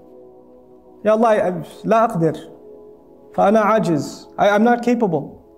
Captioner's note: Arabic